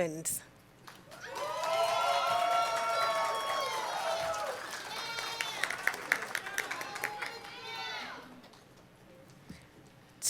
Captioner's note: cheering and Applause